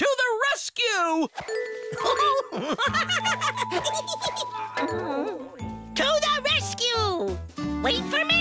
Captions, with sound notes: TO THE RESCUE! (GIGGLES) (DIZZY MOAN) TO THE RESCUE!